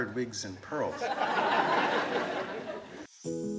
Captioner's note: audience laughs; gentle instrumental music